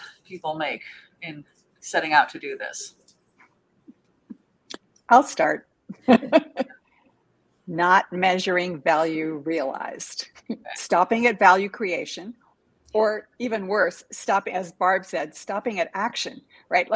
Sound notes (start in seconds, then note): 6.0 chuckles